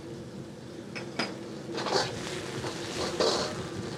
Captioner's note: sizzling